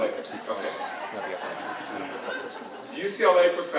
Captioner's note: audience continues laughing